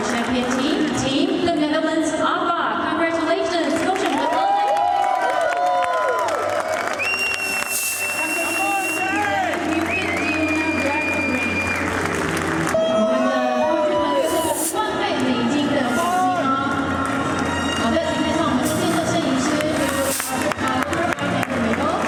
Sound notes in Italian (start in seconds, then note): 0.0 Applauso; 3.6 Applauso